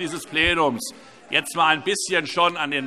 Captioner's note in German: Zurufe DIE LINKE